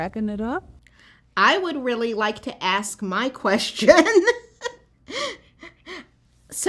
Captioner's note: laughter